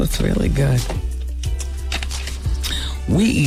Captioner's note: crunching